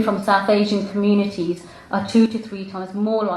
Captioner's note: none